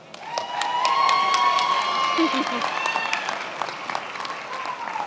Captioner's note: attendees applauding